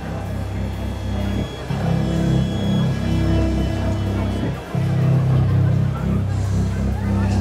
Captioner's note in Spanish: Bullicio